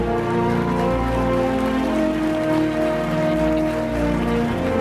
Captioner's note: applause